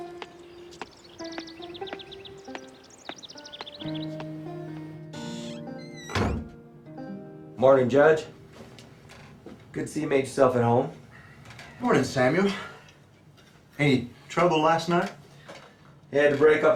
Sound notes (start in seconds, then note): 5.8 door slamming